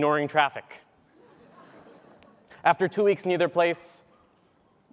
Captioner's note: laugh